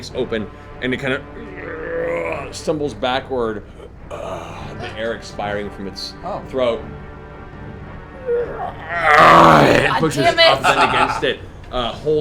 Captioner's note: groans; roars